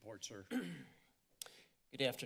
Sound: throat clearing

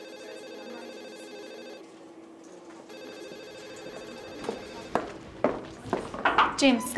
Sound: phone ringing

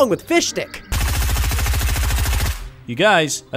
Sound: gun firing

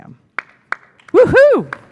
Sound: clapping

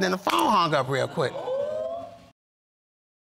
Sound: audience exclaiming

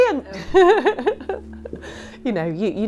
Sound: laughing

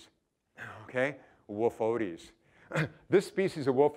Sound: chuckling

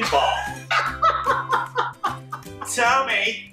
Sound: laughter

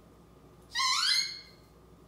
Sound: squeaking door sound

